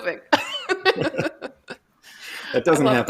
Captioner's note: laughter